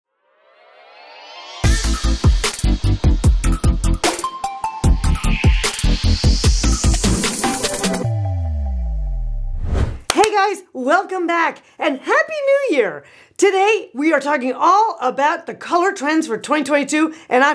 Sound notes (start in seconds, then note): 1.6 upbeat music; 10.0 clapping